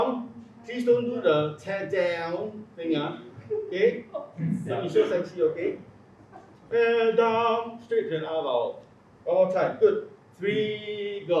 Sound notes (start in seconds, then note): 2.9 laugh